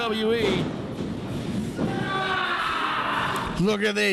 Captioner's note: loud thump